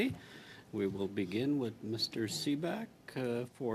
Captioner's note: speaking French